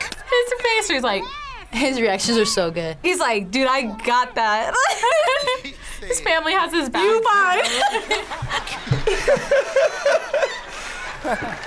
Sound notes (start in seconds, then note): 4.6 both laugh; 7.6 laughs